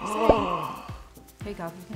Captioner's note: gasps